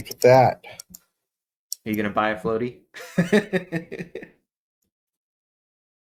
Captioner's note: laugh